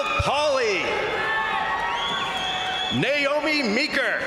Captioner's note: crowd cheering; crowd applauding